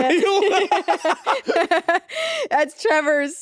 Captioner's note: Jacksepticeye and Courtney laughing